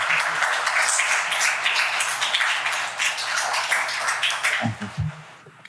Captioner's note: applause